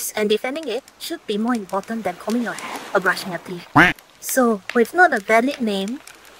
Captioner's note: quack